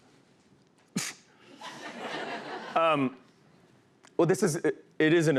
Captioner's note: laughs